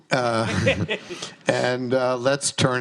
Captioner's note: host laughs